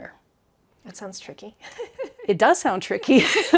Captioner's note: laughing